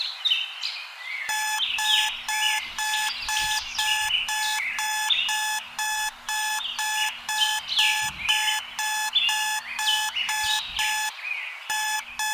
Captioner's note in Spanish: Sonido de Despertador